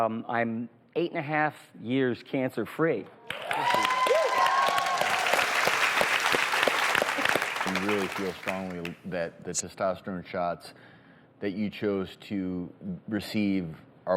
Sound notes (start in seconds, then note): 3.2 audience applauds